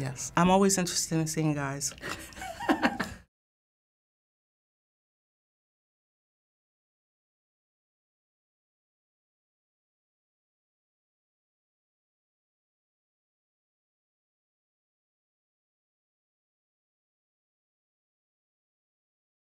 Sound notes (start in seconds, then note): 2.0 Finebros laughs